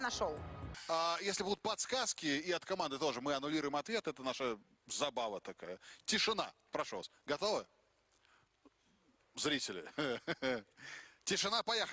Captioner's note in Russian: смех